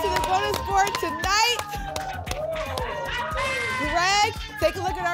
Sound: applause and cheering

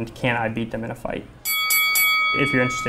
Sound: boxing ring bell sound

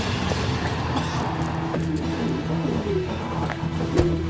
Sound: tires squealing

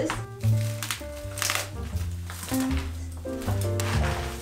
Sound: tree crackling

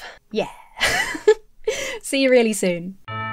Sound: laughs; whimsical music

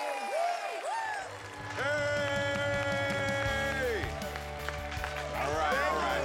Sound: applause, cheering

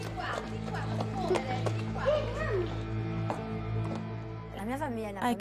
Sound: footsteps thudding

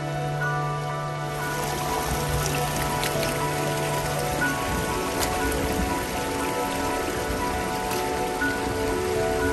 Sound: sound of loud stream and foot steps in the water

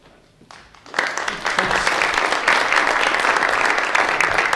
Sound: audience clapping

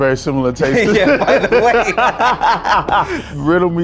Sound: lauhing

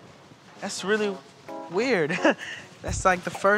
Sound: chuckles

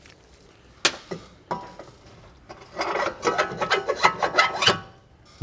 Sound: metal clanking

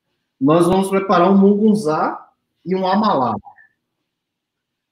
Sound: speaks portuguese

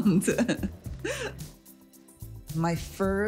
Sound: laughs

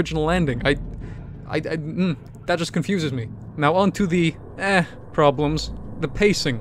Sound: confused noises

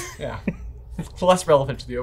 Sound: laughs

